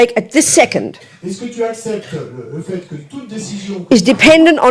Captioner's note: speaking in French